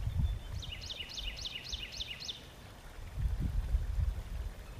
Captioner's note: bird tweeting